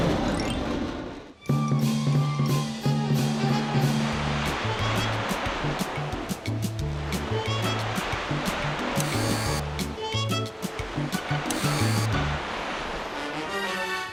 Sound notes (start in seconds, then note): 1.7 jazzy music; 9.0 whirring